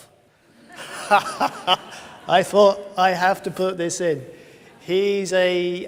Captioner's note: laughs